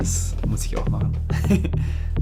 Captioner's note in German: lacht